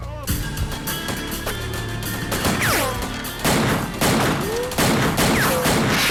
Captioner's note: slow music; guns firing